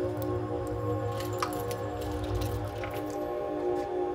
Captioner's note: keys jingling; keys rattling in lock; urban noises